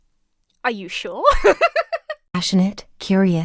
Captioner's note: laughs